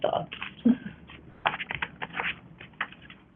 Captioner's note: paper rustling